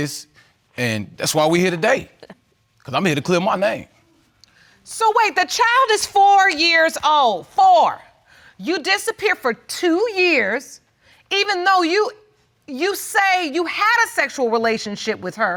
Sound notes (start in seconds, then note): none